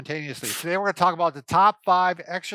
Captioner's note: laughs